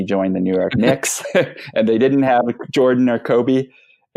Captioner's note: laughs